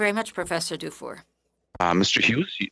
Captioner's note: speaking French